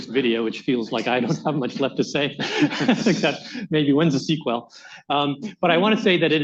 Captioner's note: laughs